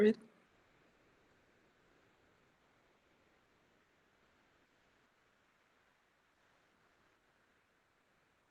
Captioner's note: silence